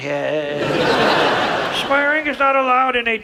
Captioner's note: audience laughs